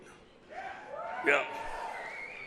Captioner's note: audience applauds